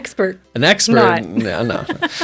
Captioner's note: laughing